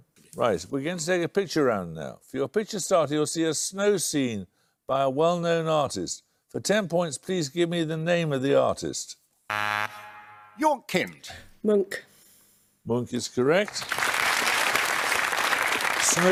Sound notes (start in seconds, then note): 9.5 buzzer; 13.6 applause